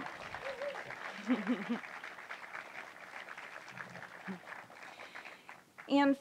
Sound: applause

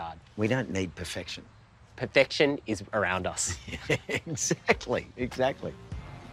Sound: laughs

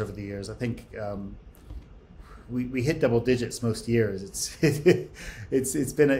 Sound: laughs

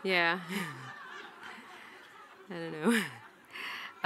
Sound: audience laughing

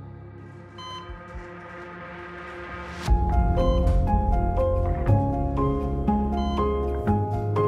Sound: intense music; machine beeps

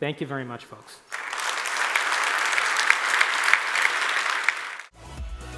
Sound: applause

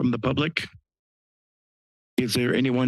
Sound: pause

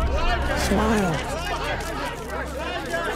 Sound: clamoring continues

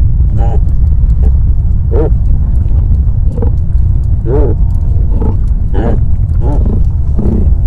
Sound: muffled sounds of a caribou calling

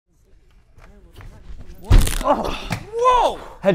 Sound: thud

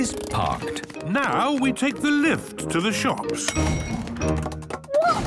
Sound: handbrake cranking; door dings open

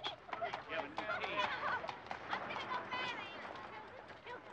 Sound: people chattering

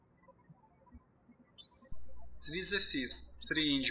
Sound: birds chirping

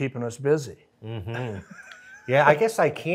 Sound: laughs

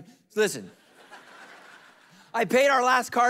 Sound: congregation laughing

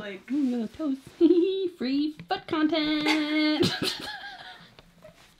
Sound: both laugh

